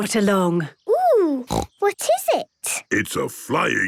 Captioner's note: snorting